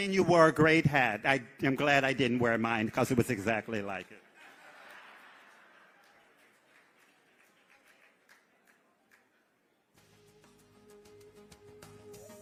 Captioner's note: laughter